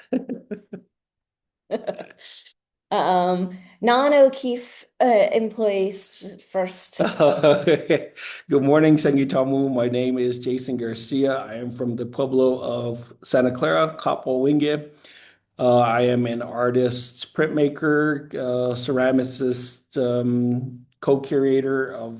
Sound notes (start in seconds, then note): 0.0 laughing; 8.2 speaking in foreign language